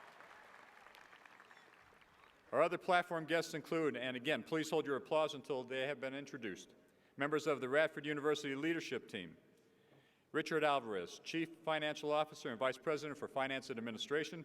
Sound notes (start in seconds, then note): 2.2 cheers and applause